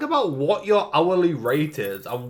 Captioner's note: coins clink